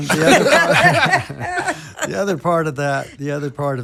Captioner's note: all laughing